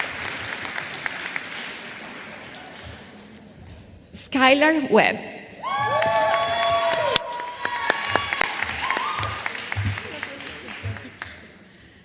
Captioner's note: applause